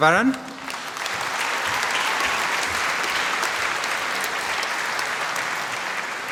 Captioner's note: applause